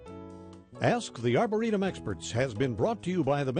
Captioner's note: voiceover